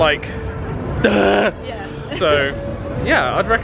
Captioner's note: laughs